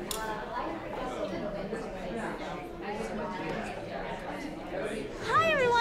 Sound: restaurant patrons murmuring

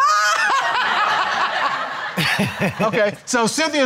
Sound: all laughing

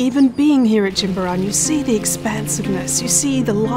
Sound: birds chirping; water splashing

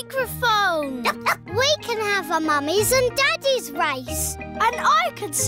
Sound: barks

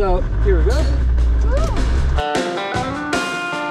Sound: car engine rumbles; rock music

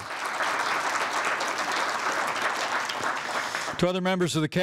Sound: applause

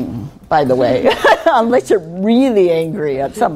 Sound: laughing

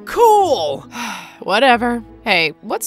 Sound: sighs

